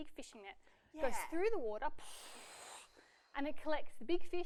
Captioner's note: whooshing